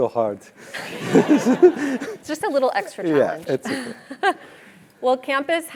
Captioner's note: laugh